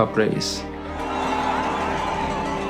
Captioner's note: crowd cheering